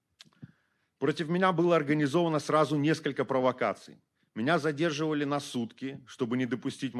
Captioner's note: speaking Belarusian